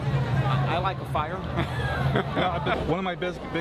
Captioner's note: Gülme